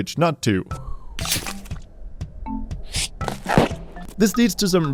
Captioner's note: game sound playing